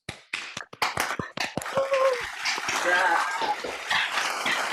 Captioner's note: applause